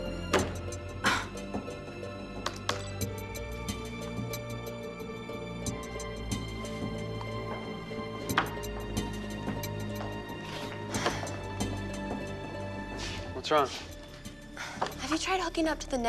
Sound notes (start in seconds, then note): 10.4 sighs